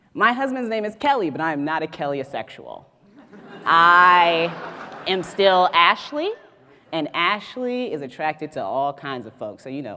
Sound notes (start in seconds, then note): 3.2 audience laughs